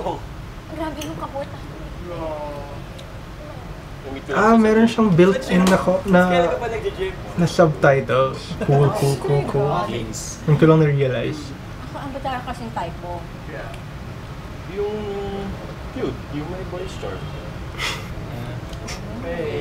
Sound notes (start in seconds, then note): 17.8 snickers